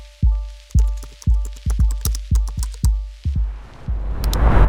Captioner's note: suspenseful music; keys clacking